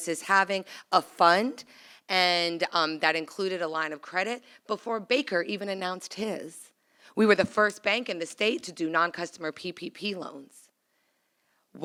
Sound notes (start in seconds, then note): none